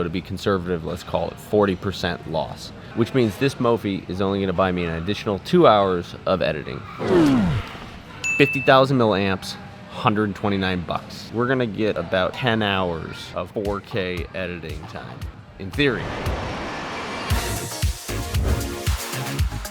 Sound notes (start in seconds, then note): 8.2 ding; 17.5 electronic beats